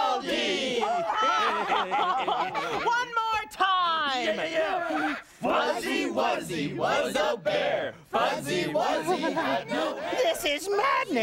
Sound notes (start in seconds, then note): 0.8 others laughing; 4.5 reciting